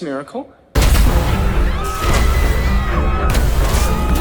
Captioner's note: flares bursting; crowd screaming